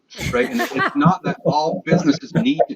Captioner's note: all laughs